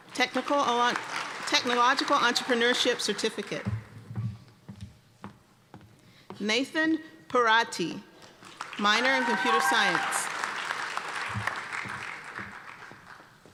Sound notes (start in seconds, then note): 10.0 applause